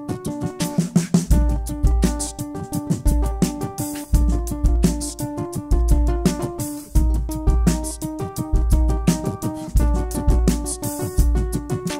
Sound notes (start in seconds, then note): 2.3 beatboxing